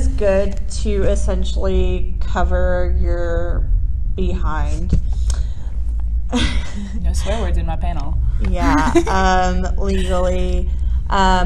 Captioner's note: laughs